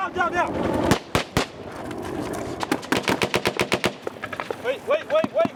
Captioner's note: gunfire